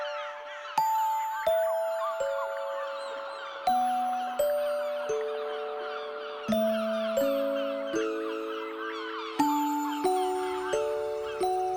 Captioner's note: seagulls